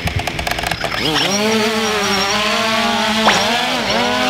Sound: drone whizzes

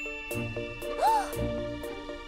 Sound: ding!; gasps

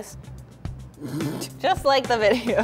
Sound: wheezing

